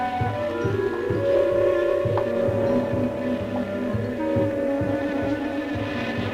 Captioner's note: buzzing